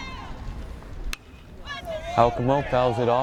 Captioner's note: bat pings